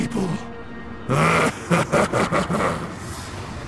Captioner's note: menacing laugh